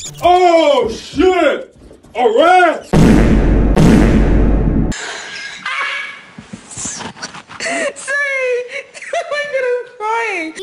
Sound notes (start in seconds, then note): 2.9 Vine Boom + Fart x1; 2.9 Vine Boom + Fart x2; 5.4 cackle; 7.4 cackle